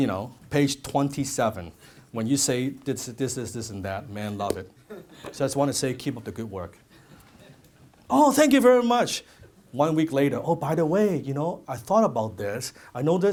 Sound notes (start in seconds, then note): 5.3 crowd laughs